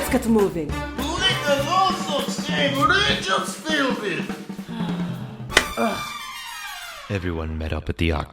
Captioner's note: sigh, then facepalm